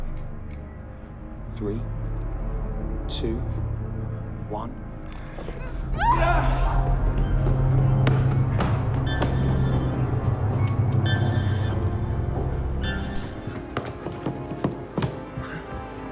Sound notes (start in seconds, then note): 5.9 Mia screaming; 7.6 dramatic music